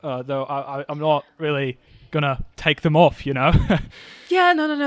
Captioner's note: laughs